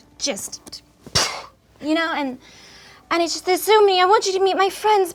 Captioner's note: exhales quickly